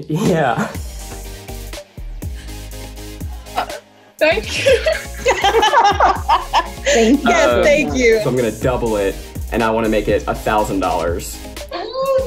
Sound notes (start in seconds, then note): 1.4 upbeat music; 4.4 laughing